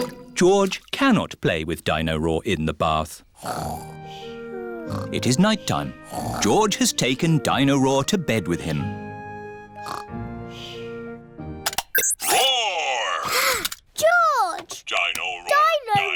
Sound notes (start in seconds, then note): 4.7 snoring; 12.8 gasps